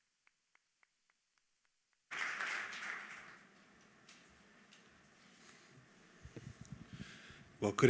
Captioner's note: applause